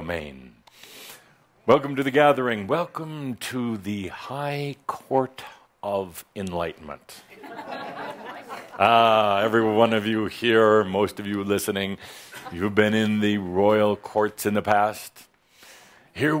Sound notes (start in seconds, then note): 6.9 some chuckles